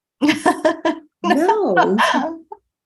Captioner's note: person laughing